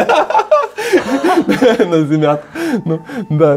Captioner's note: laughter